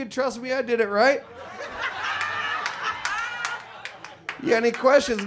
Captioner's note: audience laughs